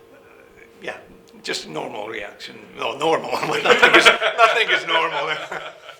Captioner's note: laughing